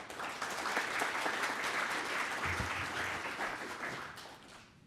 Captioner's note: applause